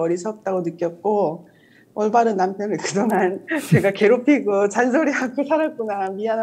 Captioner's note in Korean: 웃음